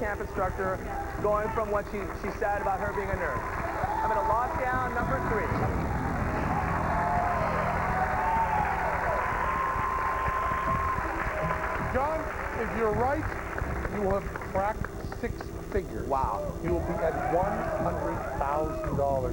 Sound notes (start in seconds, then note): 5.6 cheers and applause